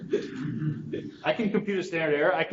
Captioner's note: students chuckle